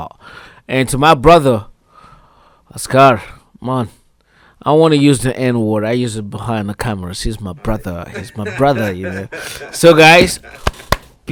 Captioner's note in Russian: смеется